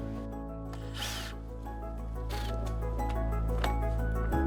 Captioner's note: hand drill whirring